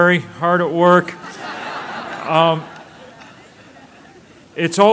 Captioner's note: laughter